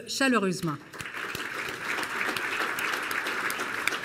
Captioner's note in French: Applaudissements